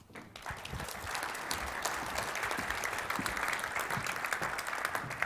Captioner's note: applause